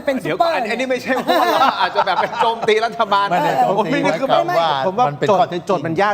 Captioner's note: laughter